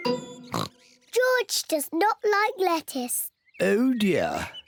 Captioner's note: oinks